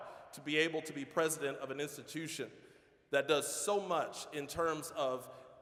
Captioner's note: none